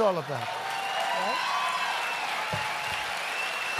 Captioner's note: laughter and applause